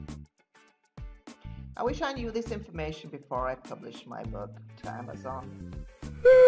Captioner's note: dog whining